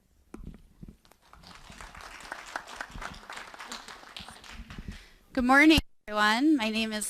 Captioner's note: applause